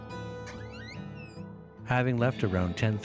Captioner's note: door creaking